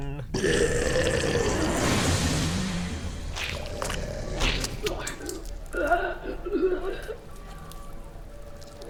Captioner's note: cosmic Horror Noises